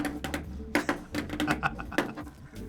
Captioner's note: chuckles